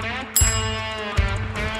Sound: timer clock striking

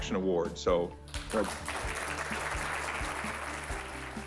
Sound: applause

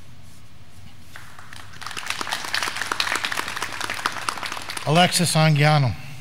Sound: graduands clapping

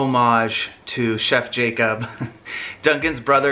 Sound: laughs

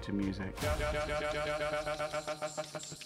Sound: stutter effect

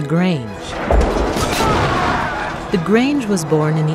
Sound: fighting

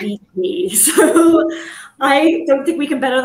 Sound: chuckles

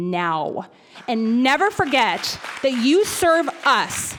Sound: audience applauds

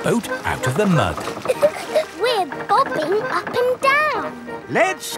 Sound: chuckles

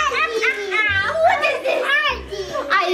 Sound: laughs

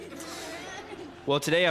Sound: audience laughing

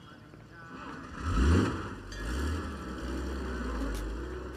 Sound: engine rumbles

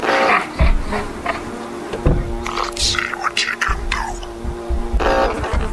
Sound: laughs

